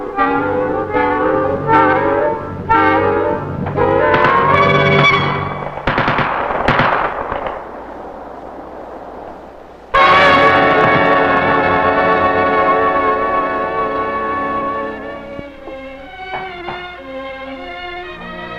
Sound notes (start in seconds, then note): 9.8 gun firing; 15.6 dramatic music